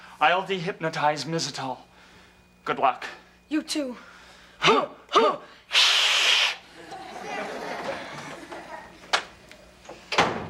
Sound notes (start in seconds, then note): 5.7 hissing; 6.7 audience laughs; 9.9 door shuts